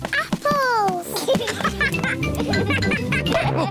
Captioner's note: both laugh; chuckles and oinks